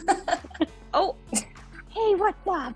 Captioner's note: both laughing